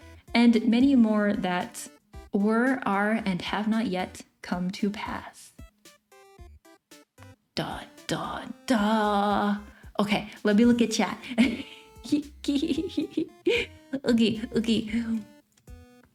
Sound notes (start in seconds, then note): 12.1 laughing